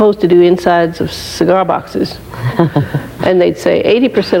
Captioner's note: laughing